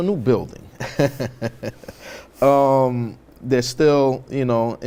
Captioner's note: laughs